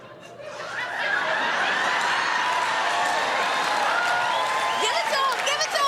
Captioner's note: laughter